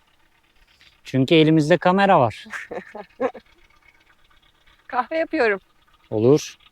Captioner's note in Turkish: kahkaha